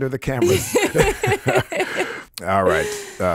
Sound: both laughing

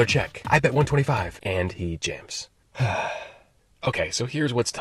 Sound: sigh

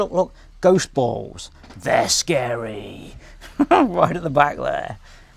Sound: laughs

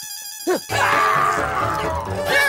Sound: screams

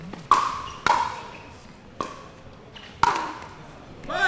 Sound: ball bouncing

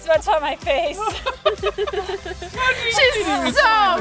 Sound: laughing

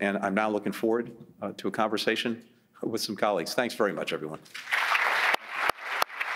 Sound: applause

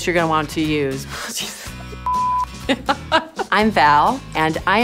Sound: beep

